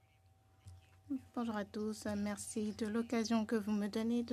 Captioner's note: speaking French